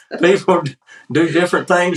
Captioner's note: laugh